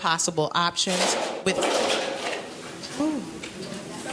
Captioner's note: clacking